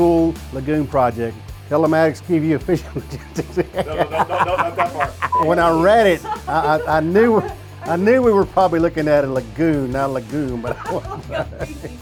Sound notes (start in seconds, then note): 0.0 upbeat rock music; 2.8 laughing; 5.2 production beeps; 6.0 off-camera person exclaiming and laughing; 10.1 laughing